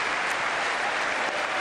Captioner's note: applause